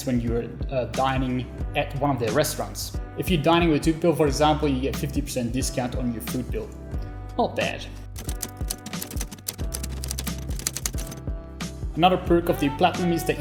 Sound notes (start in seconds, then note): 8.0 keys clacking